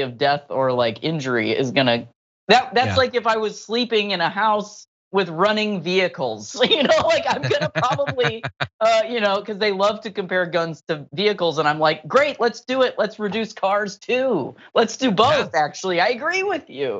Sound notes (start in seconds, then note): 6.6 laugh